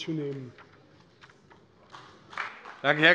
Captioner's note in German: Beifall bei der CDU